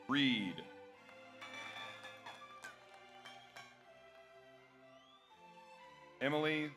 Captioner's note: audience cheers; audience applauds